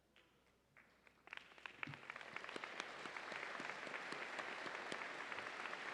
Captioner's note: audience applauding